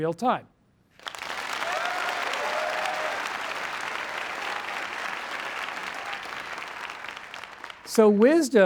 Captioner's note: applause